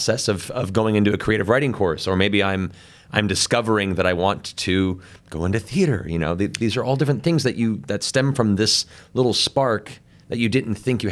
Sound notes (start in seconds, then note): none